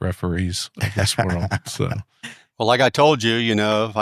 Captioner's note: laughing